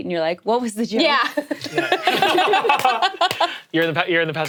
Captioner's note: all laughing